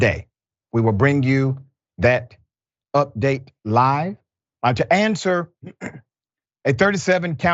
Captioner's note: cough